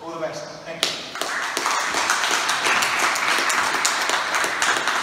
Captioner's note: applause